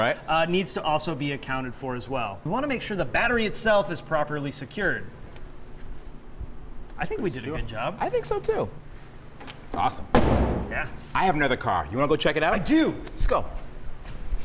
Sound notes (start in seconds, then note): 10.1 hood slams